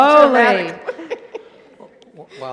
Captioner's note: laughter